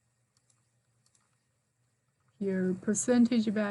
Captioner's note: mouse clickings